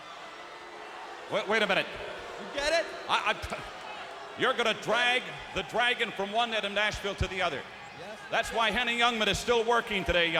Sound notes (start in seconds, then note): 0.4 crowd clamoring; 8.3 crowd clamoring